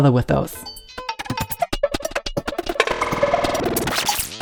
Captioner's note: digital sounds